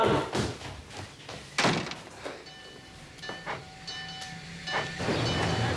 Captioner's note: door thudding; bell dinging